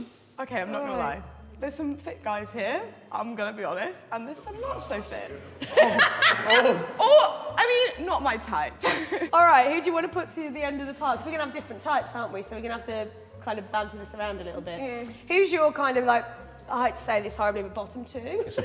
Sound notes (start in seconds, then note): 5.6 woman laughing